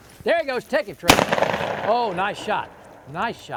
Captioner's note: gunshot cracks